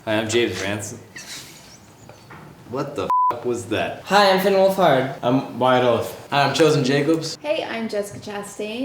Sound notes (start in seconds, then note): 1.1 laughing; 3.1 beep